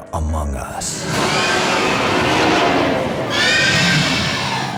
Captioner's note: creature roaring